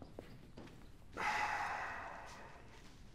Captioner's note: breathing sound